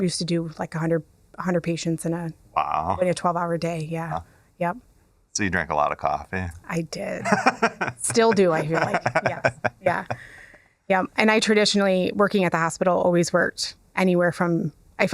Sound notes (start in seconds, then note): 7.2 laughs